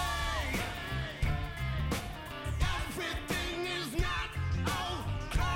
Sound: echoing

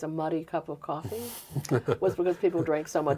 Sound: both laughing

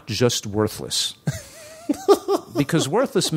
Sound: laughter

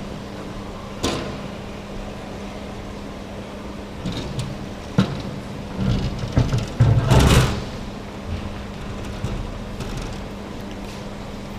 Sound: ramp clanging

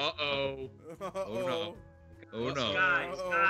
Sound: laugh

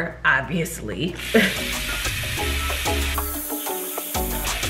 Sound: water running; upbeat instrumental music

